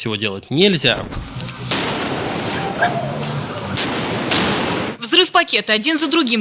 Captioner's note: explosions